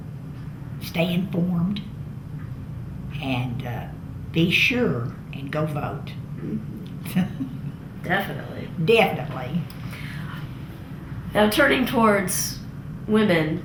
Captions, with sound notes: stay informed, and be sure and go vote. (Laughs) Definitely. Definitely. Now turning toward women,